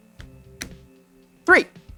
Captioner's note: card slaps tale